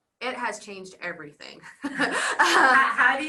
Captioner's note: laughs